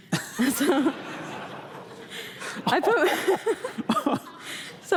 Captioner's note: laughter